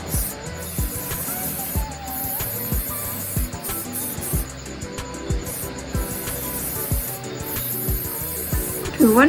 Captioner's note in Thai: เสียงพ่นสเปรย์